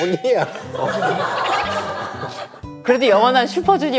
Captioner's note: hahahaha